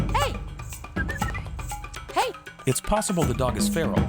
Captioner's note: clicks tongue; whistling